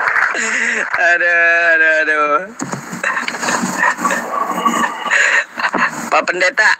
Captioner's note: applause